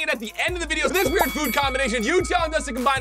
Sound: bell dinging

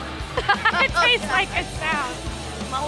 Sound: laughter

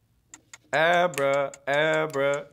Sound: ticking

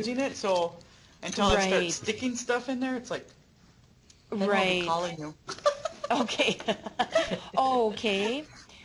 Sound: laughing

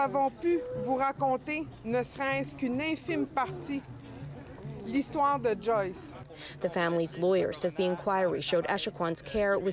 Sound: speaking French

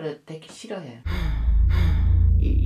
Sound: suddenly she sighs

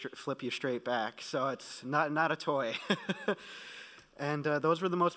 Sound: laughing

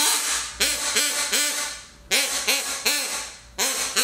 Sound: quacking

